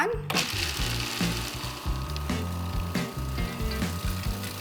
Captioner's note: blender whirring